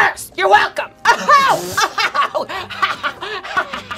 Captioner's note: laughing